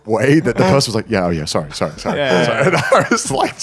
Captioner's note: laughing